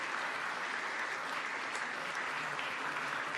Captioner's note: applause